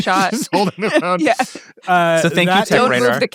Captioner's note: laughs